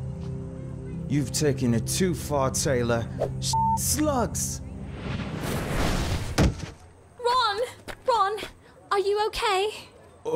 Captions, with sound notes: - You've taken it too far, Taylor. (beep) slugs! (magic exploding) (Ron thudding) - Ron, Ron, are you okay?